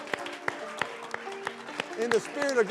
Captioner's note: applause